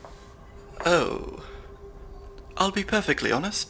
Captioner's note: footsteps; laser grid hums